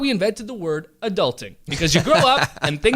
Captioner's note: laughter